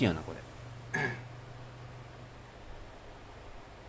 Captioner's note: clears throat